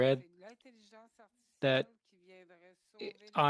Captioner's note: speaking French